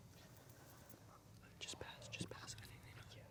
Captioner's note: whispering